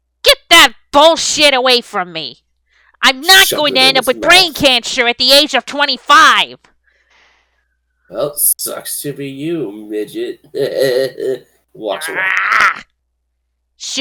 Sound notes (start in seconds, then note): 9.4 high chuckle; 9.5 Norman growls